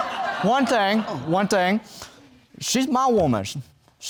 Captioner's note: audience laughing